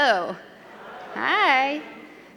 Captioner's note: crowd